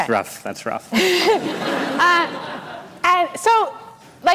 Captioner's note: laughter